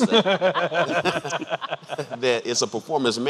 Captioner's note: laughing